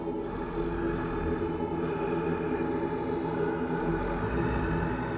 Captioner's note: ominous music; heavy breathing